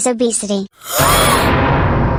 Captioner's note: gasps